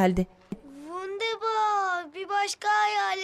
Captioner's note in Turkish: Almanca konuşma